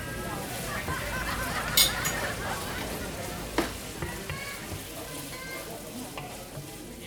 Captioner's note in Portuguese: Home kitchen background sounds and people laughing